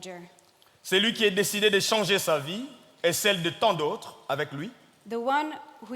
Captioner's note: speaking in French